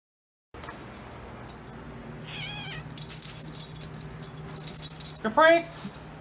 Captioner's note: Caprice meows